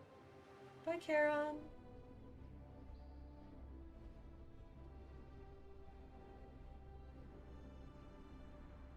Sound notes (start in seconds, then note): 0.7 normal voice